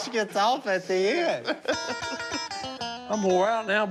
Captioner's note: laughs